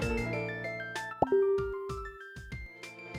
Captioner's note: facebook messenger notification sound